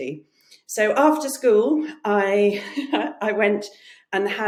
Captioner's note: chuckles